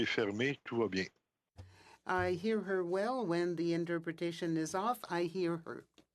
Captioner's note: speaking French